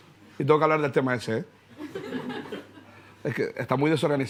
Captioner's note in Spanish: Risas